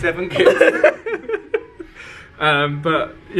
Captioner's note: both laughing